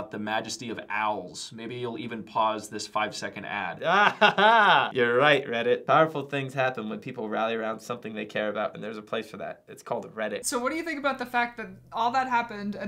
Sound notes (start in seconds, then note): 3.8 laughs